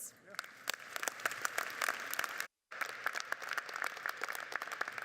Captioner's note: audience applauding